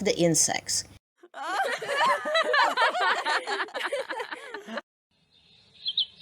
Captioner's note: girls laughter; birds singing